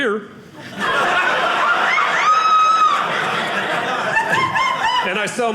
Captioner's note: audience laughing